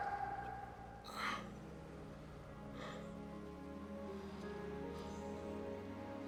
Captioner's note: Stephen yelling; Stephen groans; gentle somber music